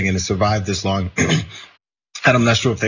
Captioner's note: cough